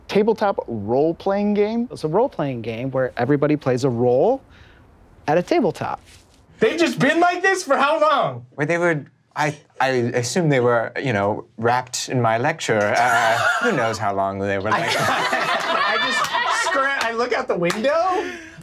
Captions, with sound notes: - Tabletop role-playing game. - It's a role-playing game where everybody plays a role at a tabletop. - They've just been like this for how long? - Well, they were, I assume they were, you know, rapt in my lecture. Who knows how long they were like that. (all laughing) - I just, I look out the window.